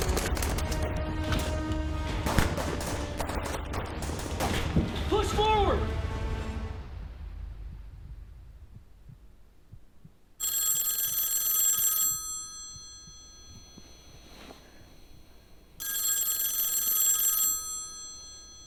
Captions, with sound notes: Push forward. (telephone ringing) - Oh.